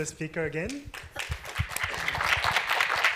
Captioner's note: applause